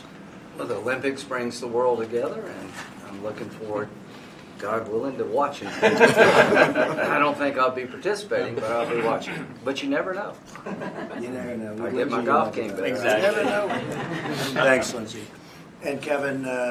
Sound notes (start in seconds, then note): 5.6 laughter